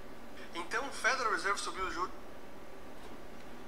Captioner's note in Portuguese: interferência